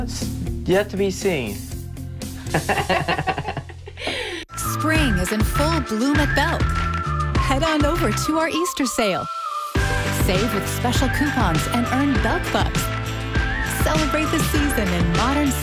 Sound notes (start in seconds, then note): 2.4 laughter